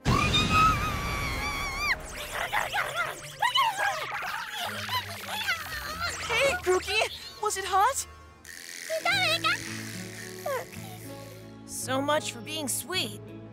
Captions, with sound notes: [screaming] [whimpering] Hey, Grookey. Was it hot? Pika, pika. [Grookey mumbling] So much for being sweet.